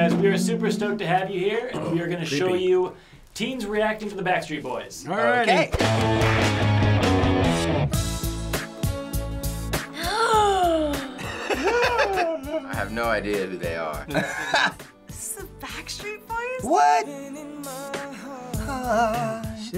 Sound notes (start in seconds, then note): 5.8 punk rock intro; 8.4 gasps; 8.4 soft pop music; 9.9 imitates gasp; 11.0 laughs